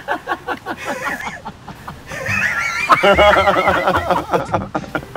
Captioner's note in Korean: 폭소